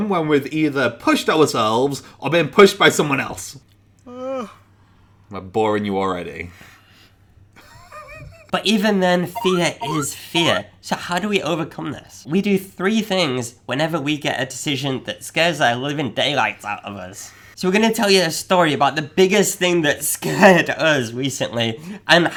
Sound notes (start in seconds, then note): 4.0 yawning; 7.6 laughing